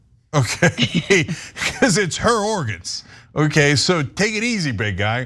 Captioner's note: laugh